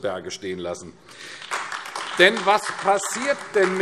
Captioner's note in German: Beifall AfD